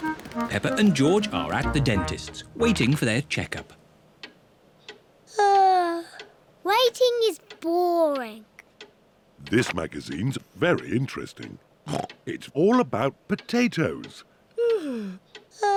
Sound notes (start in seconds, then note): 5.2 yawns; 11.7 snorts; 14.6 yawns